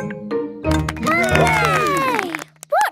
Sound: all cheer

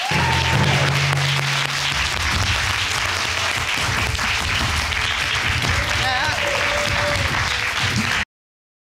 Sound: audience applauding

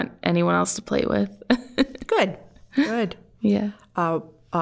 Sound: laughing

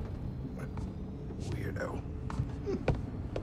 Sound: chuckle

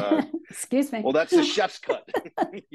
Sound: chuckling; laughing

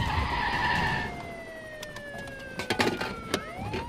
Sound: brakes screeching

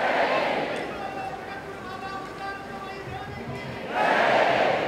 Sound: A person chants a sentence in Sanskrit

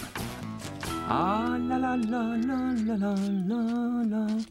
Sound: Bob Humming

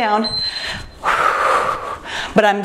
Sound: timer beeps

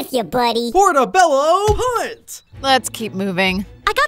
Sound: Roach chattering

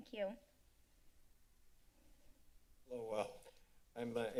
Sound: silence

